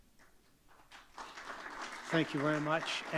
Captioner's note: audience clapping